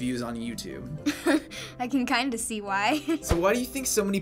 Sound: giggling

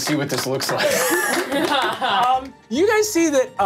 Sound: all clapping

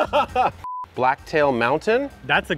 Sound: computer beep

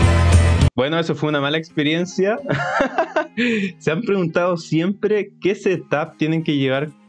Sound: laughs

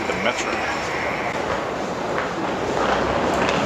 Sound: footsteps; airport sounds

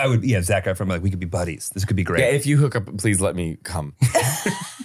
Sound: laughing

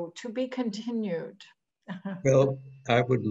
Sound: laughs

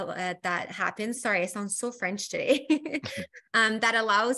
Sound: chuckles

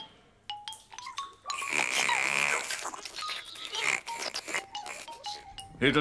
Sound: snoring

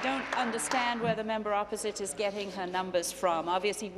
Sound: applause

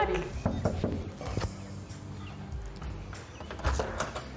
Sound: knocking

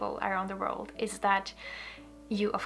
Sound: none

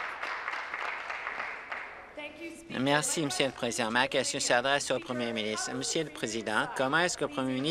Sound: applause

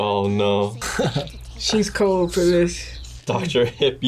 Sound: laughs

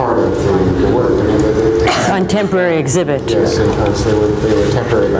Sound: mutters

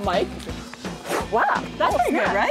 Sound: exhales

